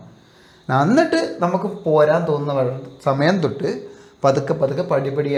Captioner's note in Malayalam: ചീറ്റുന്നു